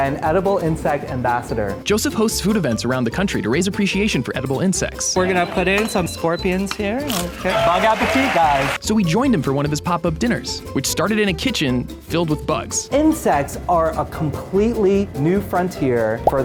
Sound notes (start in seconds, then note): 7.3 bug crunches; 7.4 crowd cheering